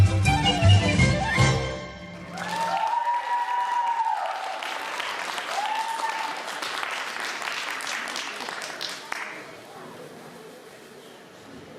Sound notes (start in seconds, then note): 2.2 applause